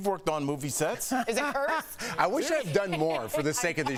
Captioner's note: laughter